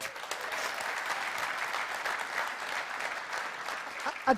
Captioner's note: applause